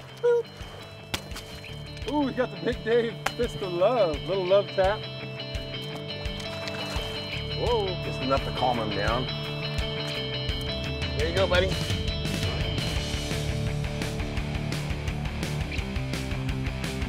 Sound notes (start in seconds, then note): 0.0 fish splashing; 1.1 thwack; 5.8 splashing